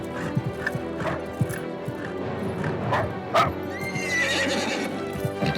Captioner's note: suspenseful music; dog barking; horse neighing